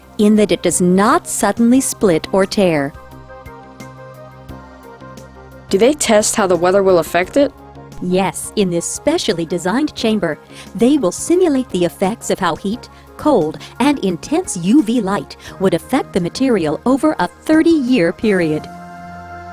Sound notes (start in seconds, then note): 5.9 voiceover